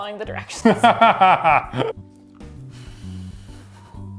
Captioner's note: laughs